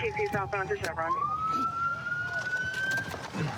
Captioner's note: sirens